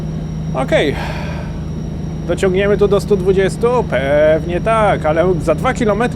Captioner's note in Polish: westchnienie